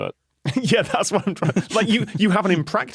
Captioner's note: laughs